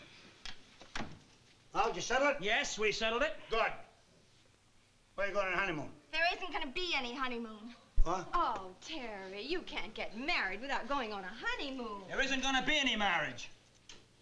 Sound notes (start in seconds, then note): none